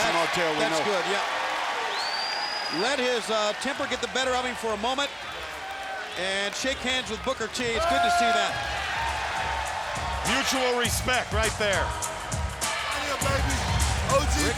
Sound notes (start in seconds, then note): 1.7 fans cheering; 8.6 fans cheering; 11.8 fans cheering; 11.8 upbeat music